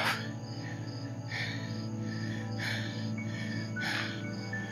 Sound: heavy breathing

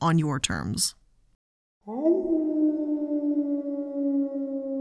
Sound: wolf howls

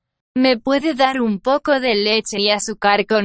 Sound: speaking spanish

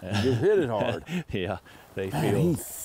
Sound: laughing

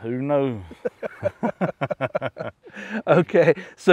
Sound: laughing

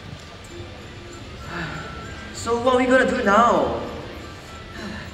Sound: sigh

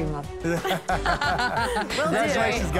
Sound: laughter

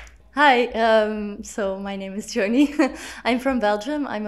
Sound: chuckles

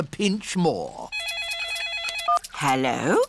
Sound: phone rings

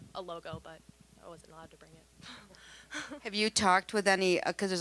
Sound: laughing

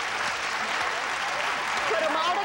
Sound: audience applauding

